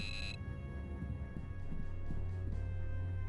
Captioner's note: beeps